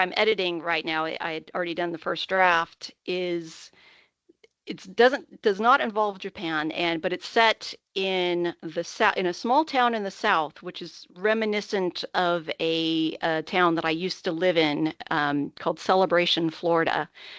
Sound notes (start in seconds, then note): none